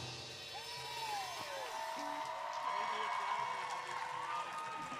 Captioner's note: audience cheers